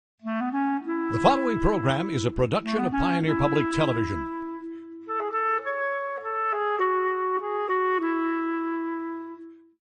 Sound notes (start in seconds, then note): 0.7 whimsical music; 2.2 voiceover